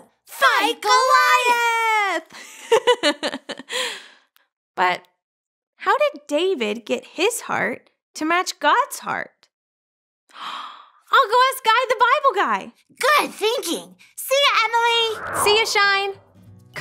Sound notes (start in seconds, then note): 2.5 giggles